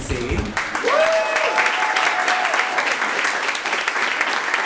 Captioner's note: audience applauds